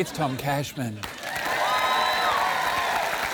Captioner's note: cheering, applause